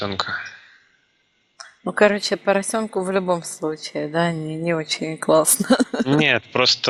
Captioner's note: laughing